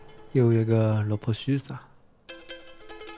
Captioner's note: northeastern dialect